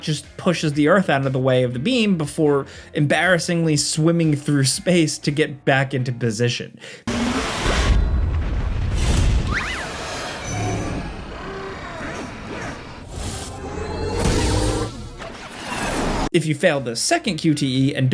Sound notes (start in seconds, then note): 7.0 intense dramatic music; 7.3 air whooshing